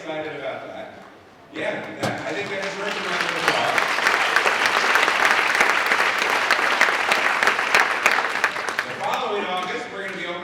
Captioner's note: applause